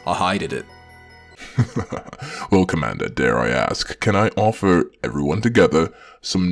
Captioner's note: chuckles